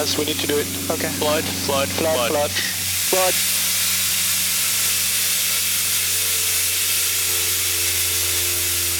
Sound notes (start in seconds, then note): 4.3 fire extinguishing